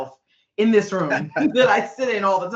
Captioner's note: laughing